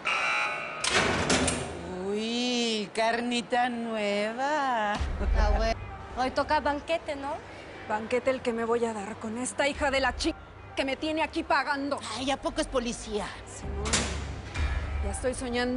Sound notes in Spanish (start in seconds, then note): 2.4 Sonido al abrir la puerta; 2.4 Suene alarma